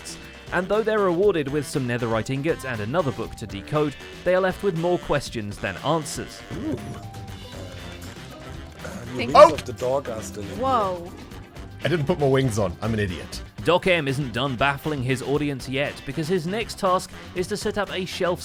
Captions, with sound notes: And though they’re rewarded with some netherite ingots and another book to decode, they’re left with more questions than answers. -Ooo! [damage sound] I didn't put my wings on, I'm an idiot. DocM isn’t done baffling his audience yet, because his next task is to set up a shelf